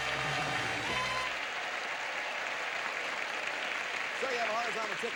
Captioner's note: audience applauding